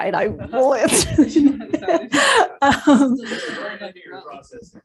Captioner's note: laughter